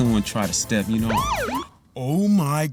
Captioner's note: siren blaring